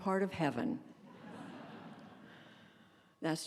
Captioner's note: laughter